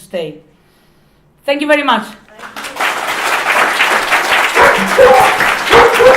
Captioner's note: applause and guide dogs barking